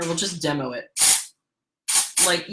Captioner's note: dry shampoo spraying